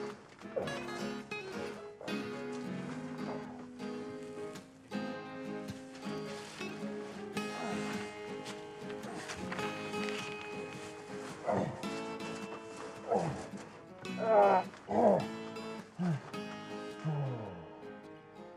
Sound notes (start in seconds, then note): 7.2 Isaac continues groaning